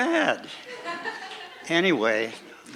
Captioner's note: laughing